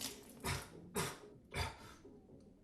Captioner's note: spits water out; coughing and sputtering sounds